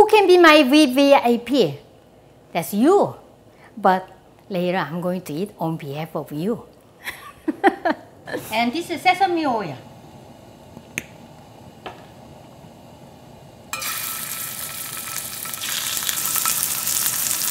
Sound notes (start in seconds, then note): 7.1 laughs; 13.5 sizzle